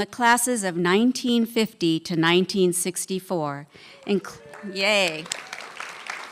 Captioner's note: applause